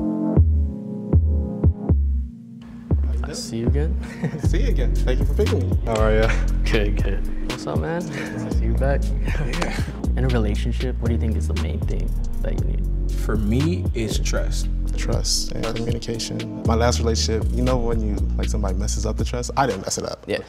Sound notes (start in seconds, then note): 4.0 laughs